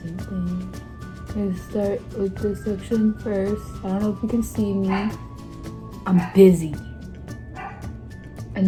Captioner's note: happy barks